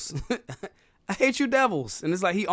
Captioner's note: laughing